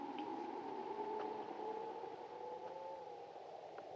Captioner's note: wind howling